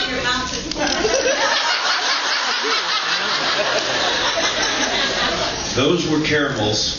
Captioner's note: laughs